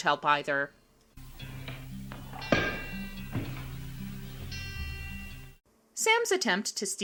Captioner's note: crash